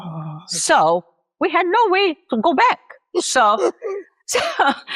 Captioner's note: laughs